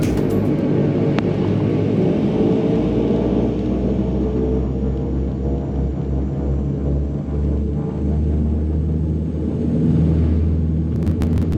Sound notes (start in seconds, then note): 2.8 turboprops roar